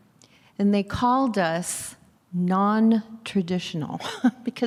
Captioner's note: laughs